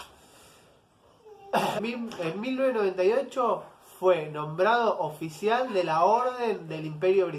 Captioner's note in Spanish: cof